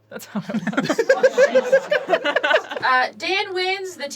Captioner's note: laughing